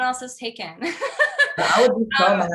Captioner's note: laugh